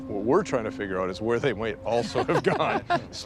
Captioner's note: chuckles; laughs